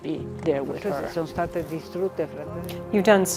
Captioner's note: speaking in foreign language